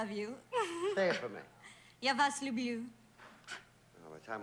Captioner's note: speaking russian